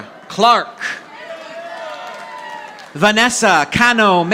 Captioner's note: audience applauding